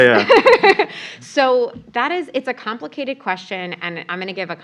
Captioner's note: laugh